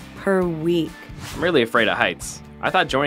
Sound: voiceover

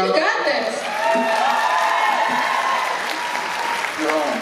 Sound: applause and Cheers

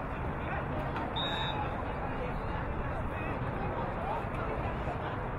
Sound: whistle blowing

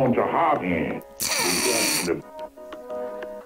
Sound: snorting

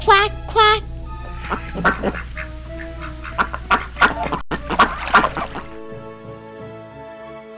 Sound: ducks quacking sound effect

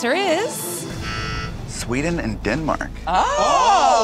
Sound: buzzing

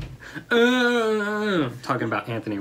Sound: grunts

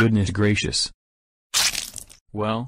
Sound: splat

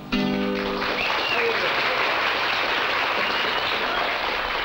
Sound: applauding

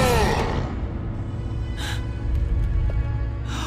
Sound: grunting; gasping

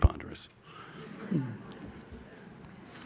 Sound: laughter

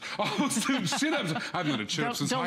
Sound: laughter

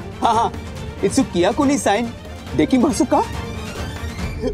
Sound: speaks Japanese

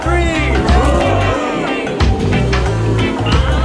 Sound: crowd cheers

